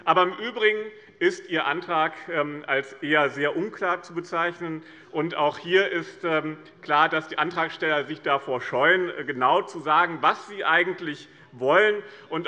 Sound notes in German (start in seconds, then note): none